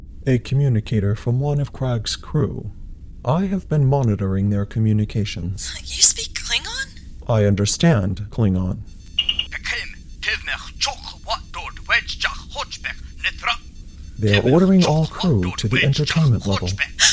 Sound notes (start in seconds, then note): 9.3 Klingon voice shouting on communicator